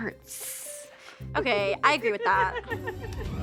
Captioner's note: laughing